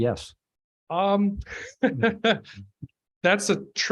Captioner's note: laughing